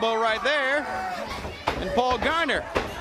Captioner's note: crowd cheering